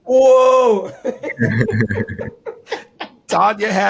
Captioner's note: laughing